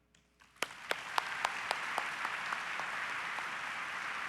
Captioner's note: audience applause